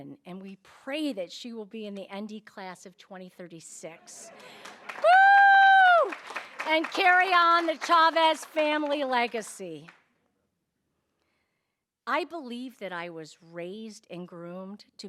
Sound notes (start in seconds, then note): 4.2 audience applauding